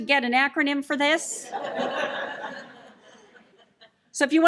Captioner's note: laughter